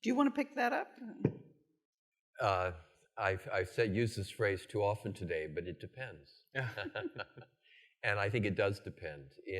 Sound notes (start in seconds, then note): 6.6 all chuckling